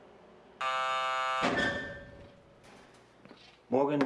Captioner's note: bell buzzes